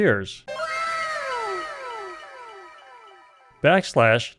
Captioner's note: anime "wow!" sound effect